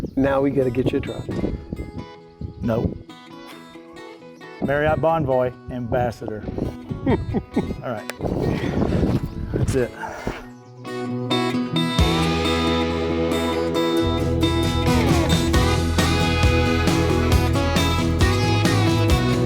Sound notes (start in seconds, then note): 6.9 laughs; 11.9 country music